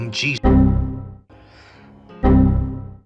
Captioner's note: inhale